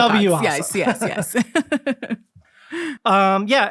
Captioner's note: both laughing